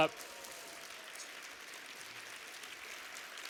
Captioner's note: applause